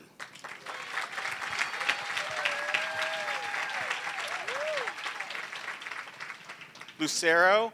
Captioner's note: applause